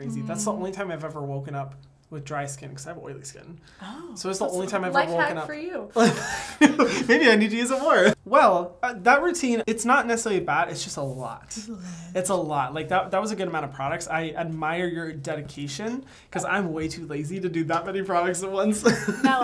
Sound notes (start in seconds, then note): 6.0 laughing